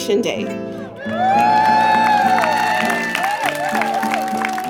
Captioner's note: crowd cheers